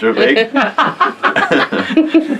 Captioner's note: laughing